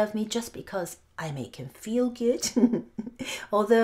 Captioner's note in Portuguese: risos